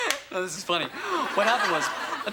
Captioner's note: foot tapping; laughing; exclaims